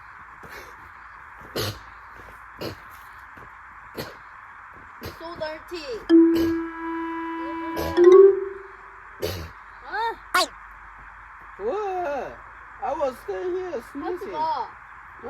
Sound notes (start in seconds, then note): 1.5 sneeze